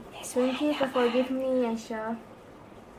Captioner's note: whisper